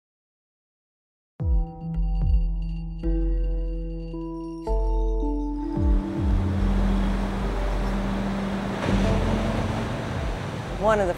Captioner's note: sound of waves crashing